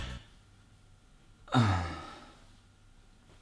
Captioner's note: sigh